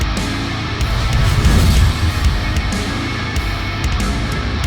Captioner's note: graphic whooshes